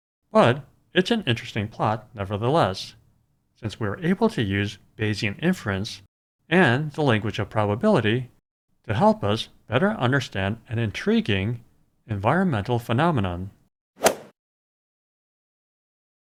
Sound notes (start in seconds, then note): 14.0 swoosh